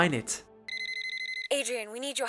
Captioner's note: watch beeping